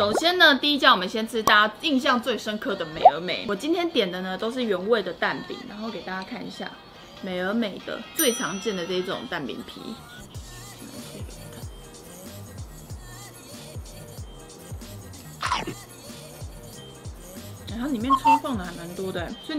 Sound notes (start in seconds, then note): 15.4 chewing